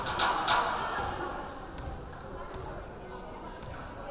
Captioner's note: rhythmic clapping